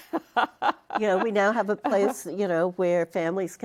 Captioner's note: laughter